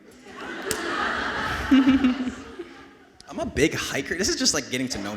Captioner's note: audience laughing